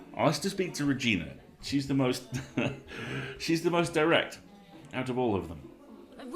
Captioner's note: laughs